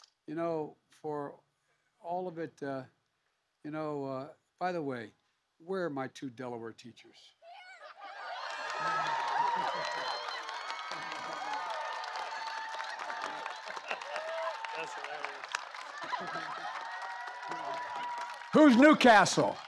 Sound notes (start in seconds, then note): 12.9 laughter and applause